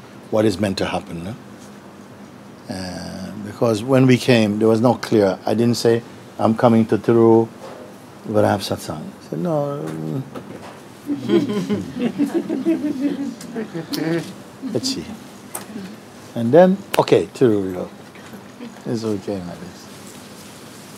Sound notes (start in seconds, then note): 15.5 laughter